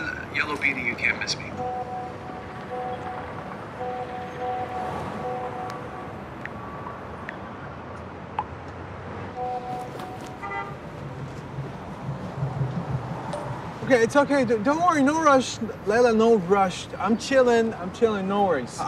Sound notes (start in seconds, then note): 0.0 speaking in Arabic; 1.6 phone pulsing; 9.3 car honking